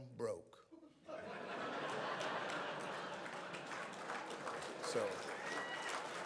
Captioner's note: audience laughs